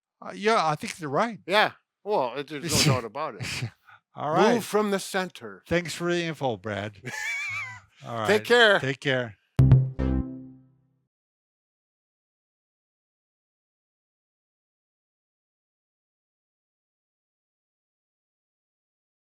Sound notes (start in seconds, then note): 7.0 both chuckle; 9.6 upbeat beats play